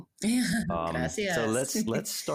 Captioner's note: laughing